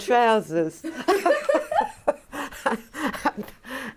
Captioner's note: laughing